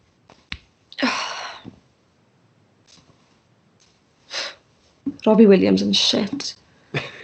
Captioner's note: sighs